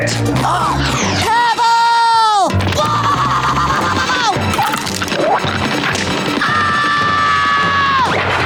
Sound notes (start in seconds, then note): 0.1 gasping; 2.7 screaming